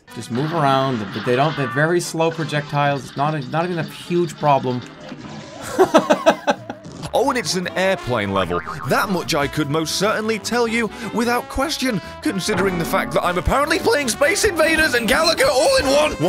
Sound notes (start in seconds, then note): 5.6 laughs